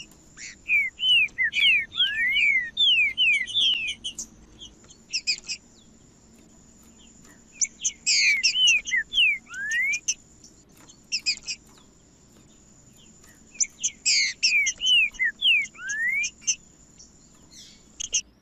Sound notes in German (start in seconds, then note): 0.0 trinca ferro cantando; 1.4 trinca ferro cantando; 3.4 trinca ferro cantando; 5.4 trinca ferro cantando; 7.4 trinca ferro cantando; 9.4 trinca ferro cantando; 11.4 trinca ferro cantando; 13.4 trinca ferro cantando; 15.4 trinca ferro cantando; 17.4 trinca ferro cantando